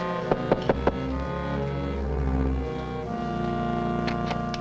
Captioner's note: knocks on door